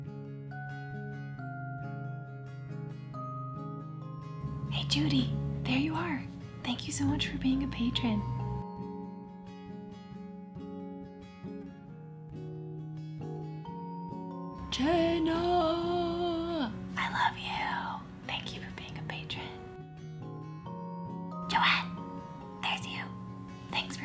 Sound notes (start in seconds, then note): 0.3 acoustic lullaby music; 4.9 whispering; 8.9 acoustic lullaby music; 14.8 soft shouting; 21.6 whispering